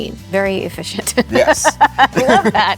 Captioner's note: laughing; chuckles